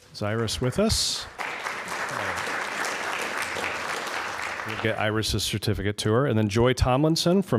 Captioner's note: applause